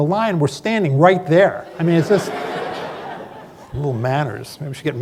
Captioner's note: laughter